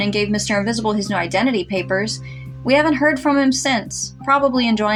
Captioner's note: none